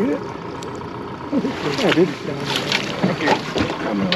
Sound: fish splashing

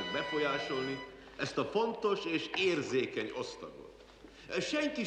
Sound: speaking hungarian

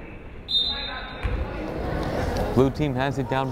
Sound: whistle blows

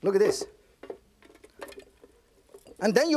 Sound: cabbage falling

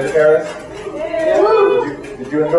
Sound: cheering

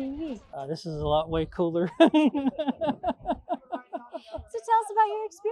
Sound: laughs

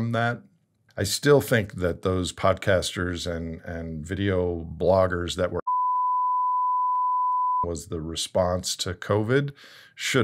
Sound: beep

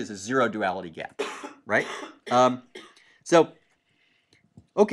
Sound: cough

